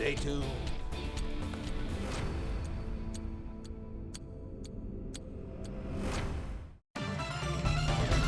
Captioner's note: clock ticking; exciting music; exciting electronic music